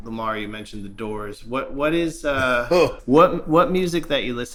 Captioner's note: laughter